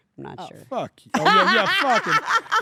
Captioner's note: laugh